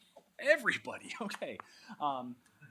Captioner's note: laughs